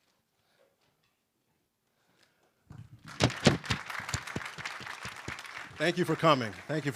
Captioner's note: applause